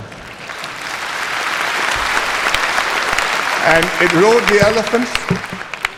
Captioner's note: applause